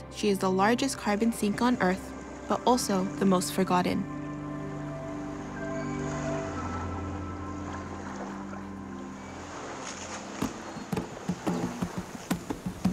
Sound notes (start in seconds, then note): 7.3 waves lap; 10.8 percussive music